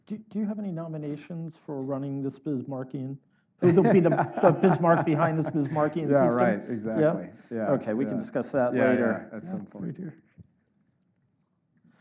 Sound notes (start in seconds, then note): 3.6 Jake laughs